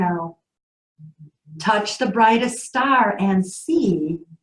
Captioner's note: psst